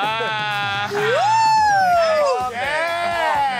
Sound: wooing; everyone cheering

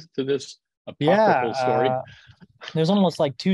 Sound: chuckles

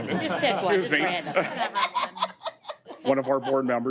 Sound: audience laughing

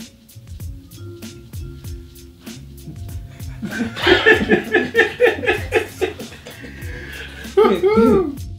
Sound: laughter

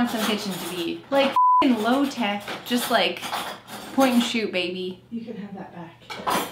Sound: beep

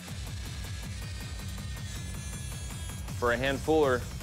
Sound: grinding

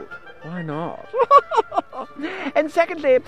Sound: laughs

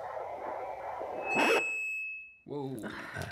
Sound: high-pitched sound

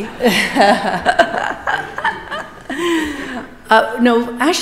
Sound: chuckles

